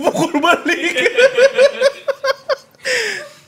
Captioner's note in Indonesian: ketawa